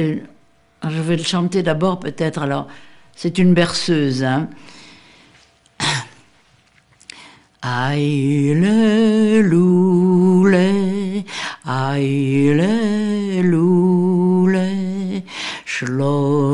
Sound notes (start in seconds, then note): 4.5 foreign language